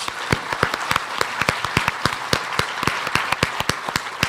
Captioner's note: audience clapping